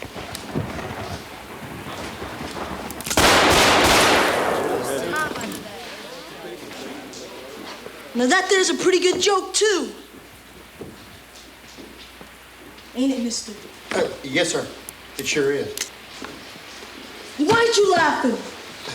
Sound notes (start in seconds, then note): 0.2 thunder claps; 3.1 gun fires rapidly; 4.0 patrons murmur